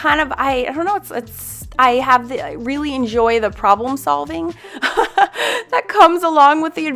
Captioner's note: laughs